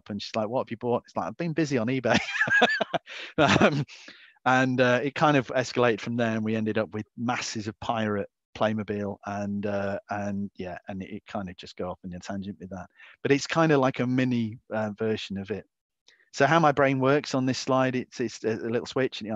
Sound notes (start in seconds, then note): 2.1 laughs